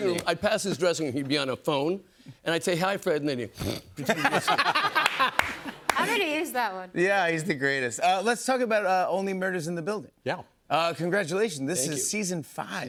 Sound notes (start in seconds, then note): 3.4 snores; 4.0 laughter